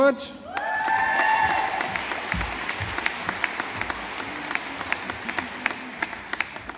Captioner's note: audience applauding